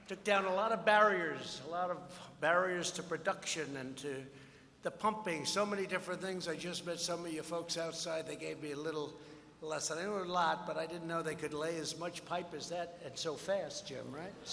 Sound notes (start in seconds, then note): none